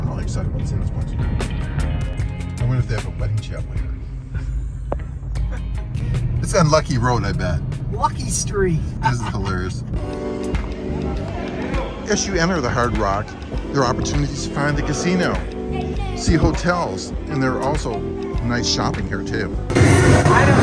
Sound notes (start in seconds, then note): 5.4 both chuckling; 8.8 laughs; 10.2 gentle upbeat music; 10.2 people chattering